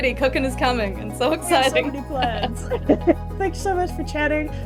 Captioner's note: chuckles